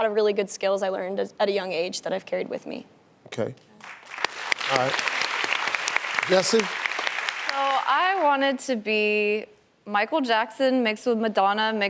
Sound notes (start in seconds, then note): 3.8 clapping